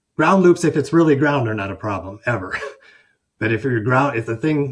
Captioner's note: chuckles